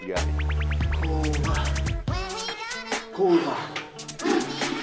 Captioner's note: being sick